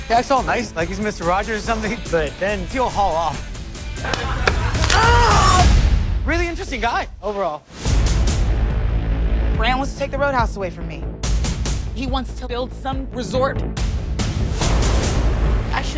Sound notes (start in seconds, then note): 4.5 man screams; 11.4 tense music; 13.8 tense music